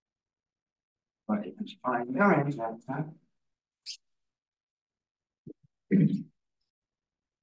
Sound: audio distorting

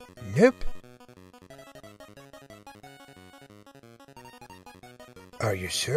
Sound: Kirby game play

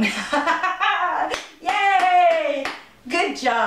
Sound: laughter; clapping

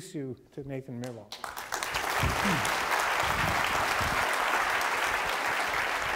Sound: applause

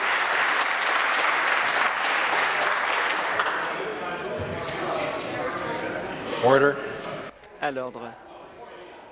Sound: applause

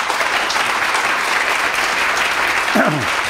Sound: applause

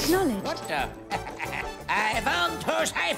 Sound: laughing

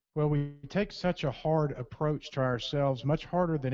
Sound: voiceover

